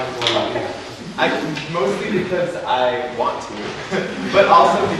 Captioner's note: laughs